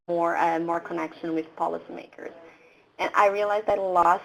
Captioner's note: voices in the background